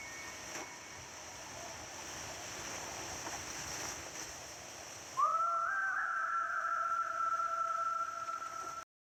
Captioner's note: wind sounds and challenge music completed